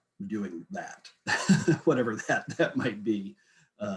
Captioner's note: giggles